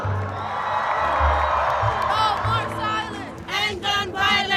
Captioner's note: spectators cheering